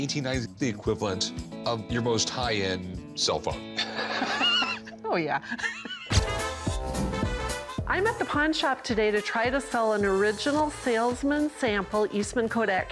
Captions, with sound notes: the equivalent of your most high-end cell phone. [laughs] - Oh, yeah. [jazzy music] I'm at the pawn shop today to try to sell an original salesman sample Eastman Kodak camera.